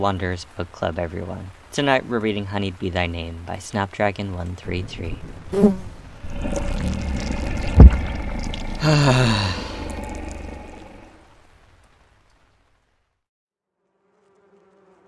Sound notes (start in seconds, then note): 4.6 Buzzing and Azazel Growling; 8.5 Ignota sighs